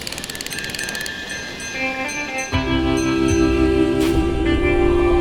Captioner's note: ringing bell